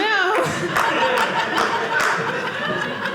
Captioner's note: audience laughing